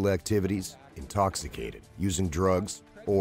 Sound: voiceover

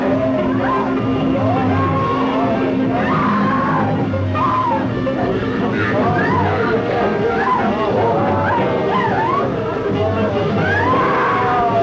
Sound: young woman screaming

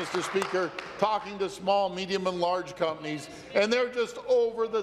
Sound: applause

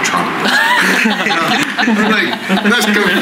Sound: laughter

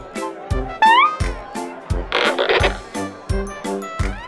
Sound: crowd murmuring; squeezing noise

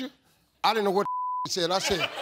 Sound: beep

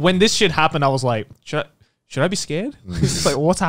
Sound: chuckles

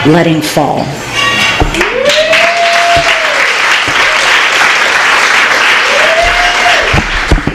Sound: applause

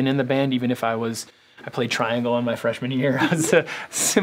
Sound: laugh

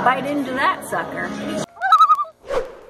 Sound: loon calls

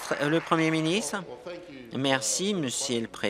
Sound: applause

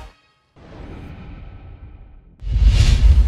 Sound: whooshing

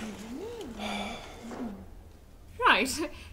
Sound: Goodbrarian sighs

